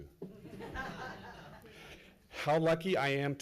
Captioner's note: laughs